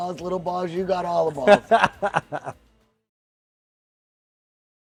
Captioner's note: laughing